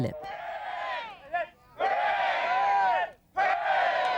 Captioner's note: cheering